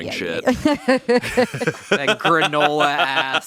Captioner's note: laughs